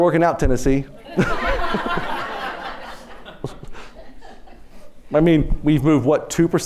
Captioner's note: laughter